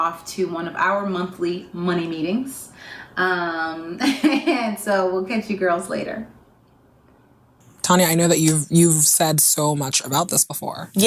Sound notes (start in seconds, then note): 4.0 chuckling